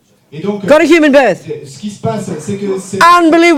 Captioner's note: speaking in French